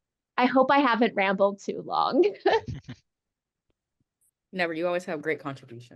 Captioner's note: laughs